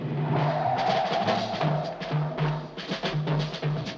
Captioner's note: tires screeching